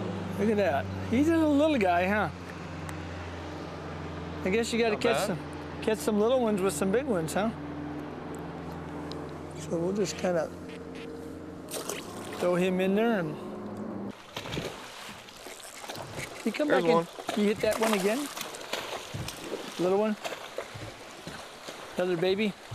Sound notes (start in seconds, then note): 14.1 waves crushing